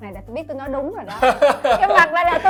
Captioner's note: laugh